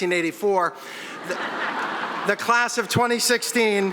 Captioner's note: audience laughing